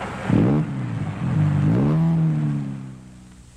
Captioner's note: engine revving